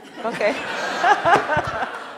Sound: audience laughing

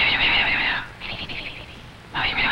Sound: man whispers; whispers; man whispers

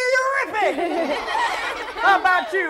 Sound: laughter

